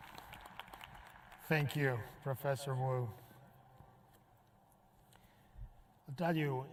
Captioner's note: applause